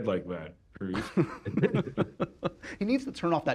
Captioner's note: laughter